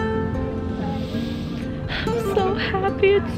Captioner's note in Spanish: respiración profunda